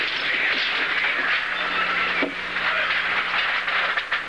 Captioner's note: coins Clinking